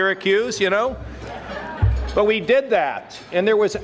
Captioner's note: audience laughing